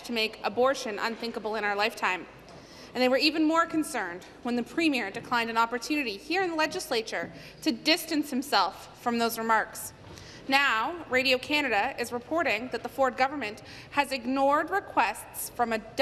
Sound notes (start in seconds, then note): none